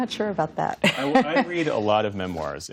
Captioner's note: laughter